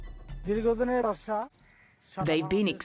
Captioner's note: speaking in foreign language